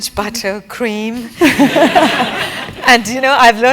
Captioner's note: laugh